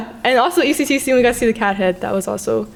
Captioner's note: none